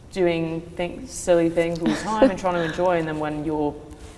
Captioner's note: chuckles